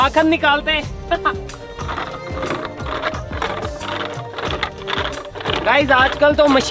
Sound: churning

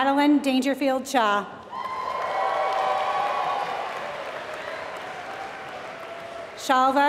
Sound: applause

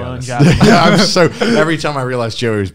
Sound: laughing loudly

